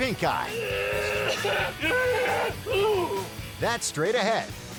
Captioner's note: man groaning, yelling